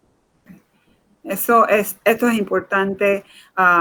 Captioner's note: speaking in Foreign Language